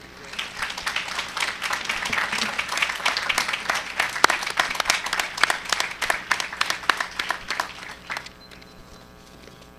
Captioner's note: applause